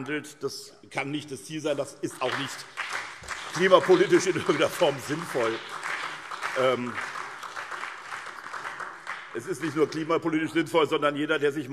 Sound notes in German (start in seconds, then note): 5.6 Beifall SPD und BÜNDNIS 90/DIE GRÜNEN